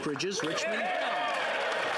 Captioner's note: speaking French